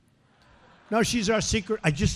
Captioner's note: laughter